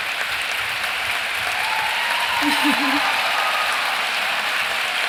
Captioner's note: cheering